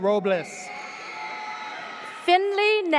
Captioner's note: audience cheers